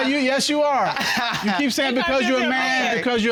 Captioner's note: laughs